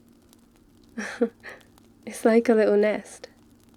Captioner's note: laughs